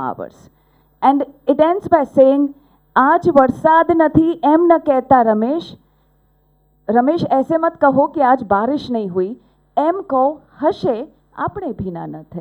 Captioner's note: non-english speech